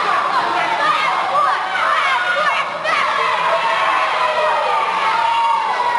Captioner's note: Children in crowd yelling "Fat Boy" at wrestlers in ring